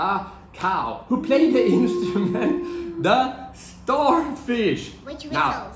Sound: laughs

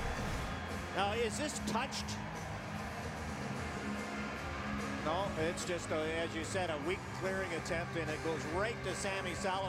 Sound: cheers, applause

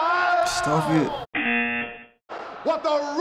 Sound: buzzer

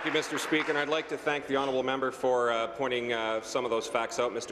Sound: applause

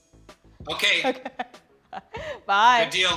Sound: laughing

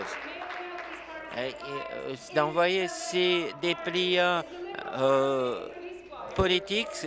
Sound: applause

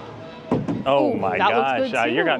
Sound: ball thudding

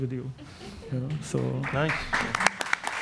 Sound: audience laughs and applauds

